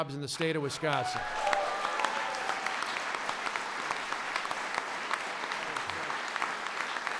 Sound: applause

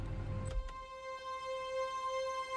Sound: door opens

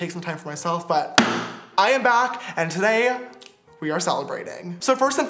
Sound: tongue pop

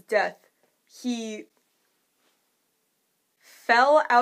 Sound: exasperated pause

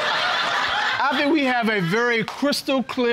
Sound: audience laughing

